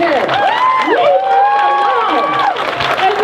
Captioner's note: crowd cheers